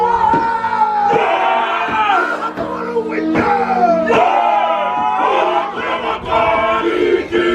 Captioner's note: performers continue chanting; performers chanting in foreign language